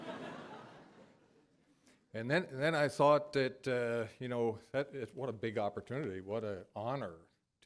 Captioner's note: laughter